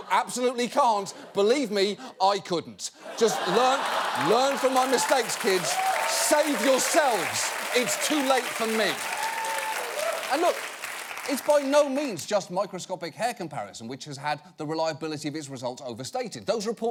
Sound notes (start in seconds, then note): 5.7 audience applauding; 8.1 audience applauding